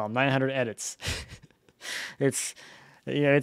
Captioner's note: laughing